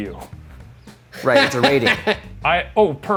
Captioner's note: laughs